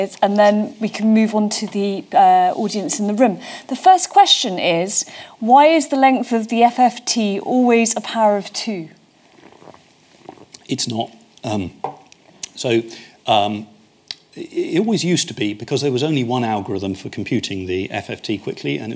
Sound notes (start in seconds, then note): 12.0 thuds